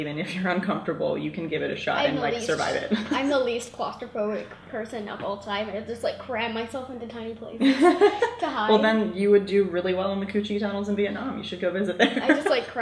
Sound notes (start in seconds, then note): 7.6 laughs